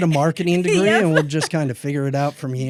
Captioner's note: laughs